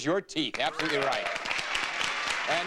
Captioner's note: audience applauding